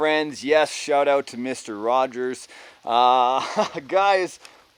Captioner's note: chuckles